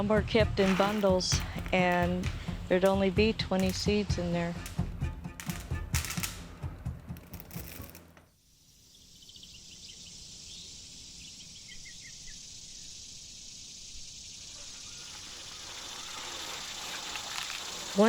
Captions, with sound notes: but some were kept in bundles and there'd only be 20 seeds in there. (gentle music) (birds chirping) (birds chirping)